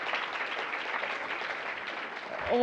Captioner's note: applause